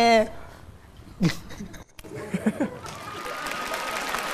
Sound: laughs; claps

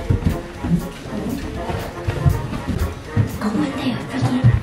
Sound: footsteps

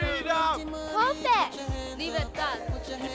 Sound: speaking language other than English

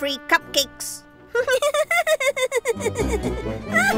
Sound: laughter

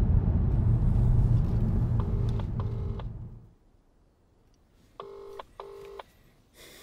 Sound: phone ringing on other end of the line

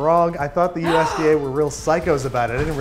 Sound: she gasps

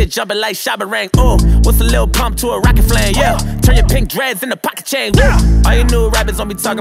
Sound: woo

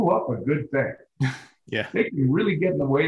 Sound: scoffs

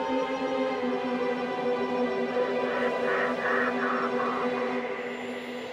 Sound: eerie music; ravens cawing

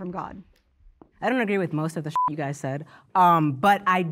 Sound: beep

